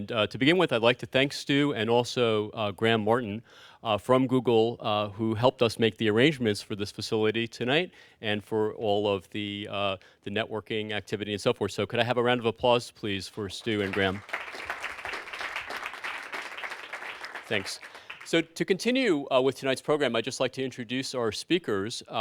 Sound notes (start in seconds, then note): 15.7 applause